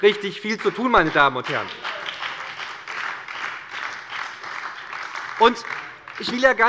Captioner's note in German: Beifall bei der SPD und der FDP